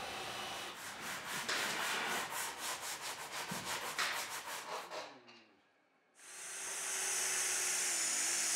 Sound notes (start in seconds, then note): 0.0 sawing in the background; 6.2 drilling noise